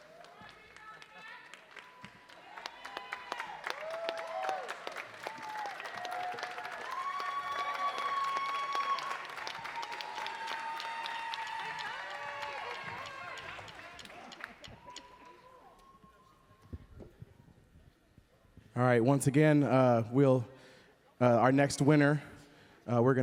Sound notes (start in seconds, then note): 0.1 audience applauding; 5.5 audience cheering